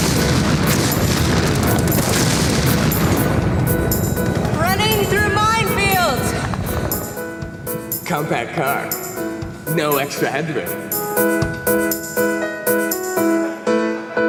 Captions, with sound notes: (sound of detonations) (piano music playing) (sound of gun battle) (piano music playing) Running through mine fields. Compact car, no extra hard work.